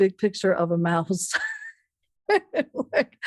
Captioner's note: laughs